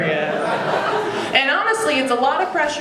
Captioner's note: audience laughing